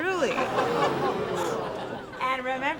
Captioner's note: laughter and murmurs